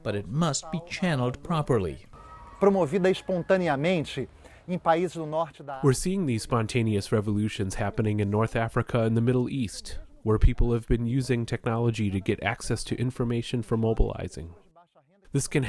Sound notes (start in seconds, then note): 3.2 through translator